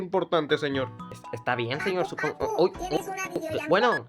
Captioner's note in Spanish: teléfono suena